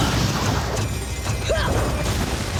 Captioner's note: grunting